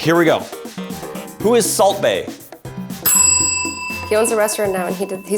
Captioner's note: bell rings